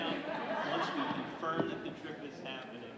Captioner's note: audience laughing